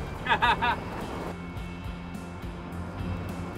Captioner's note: laughs